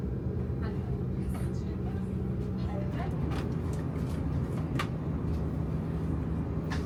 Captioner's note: passengers continue chattering faintly